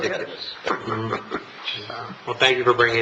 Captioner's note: laughter